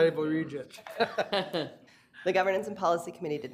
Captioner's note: laughter